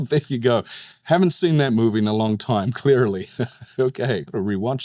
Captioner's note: snickers